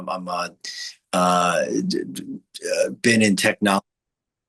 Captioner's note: stammers